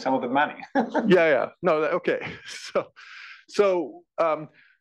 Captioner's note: laugh